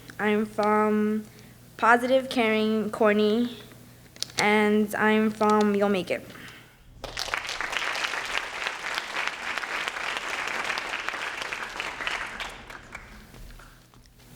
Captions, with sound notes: I am from positive, caring, corny. And I am from you'll make it. (applause)